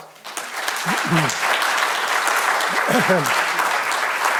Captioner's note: audience applauding